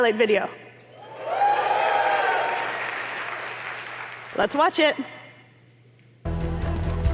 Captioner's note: applause